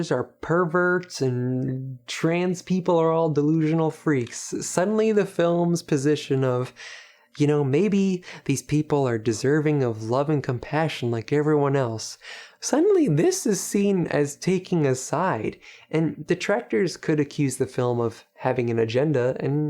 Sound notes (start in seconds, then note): none